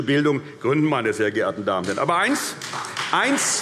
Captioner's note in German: Vereinzelter Beifall CDU, SPD und Freie Demokraten